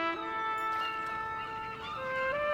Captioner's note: sea gulls screeching